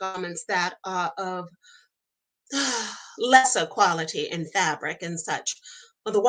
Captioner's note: sighs